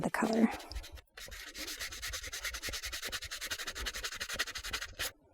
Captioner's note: block scratching